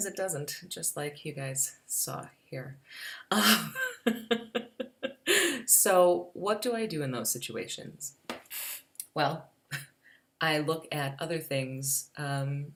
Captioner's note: laughs